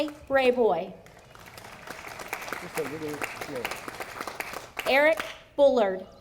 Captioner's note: audience applauding